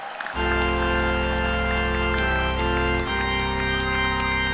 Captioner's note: cheers and applause